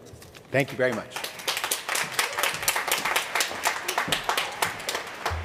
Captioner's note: applause